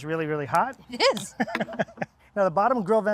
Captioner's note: laughing